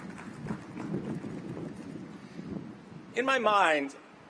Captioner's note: cheers and applause